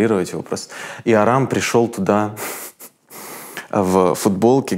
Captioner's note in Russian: смеясь